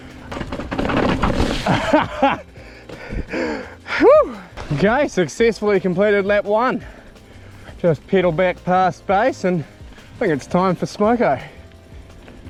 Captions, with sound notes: (laughs) Woo! Okay, successfully completed lap one. Just pedal back past space and, I think it's time for smoker.